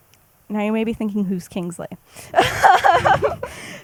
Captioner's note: laughs